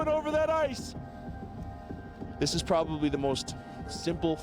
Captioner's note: voiceover